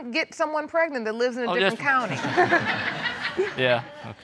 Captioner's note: laughter